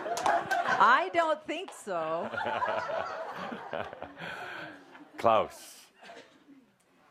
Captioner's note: lots of laughter